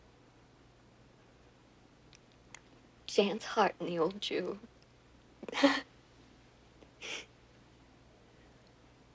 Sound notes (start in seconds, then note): 5.5 laughs